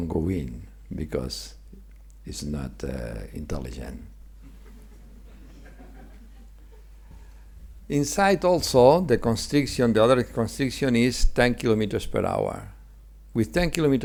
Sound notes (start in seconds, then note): 4.5 audience laughing